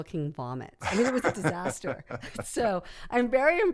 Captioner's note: laughs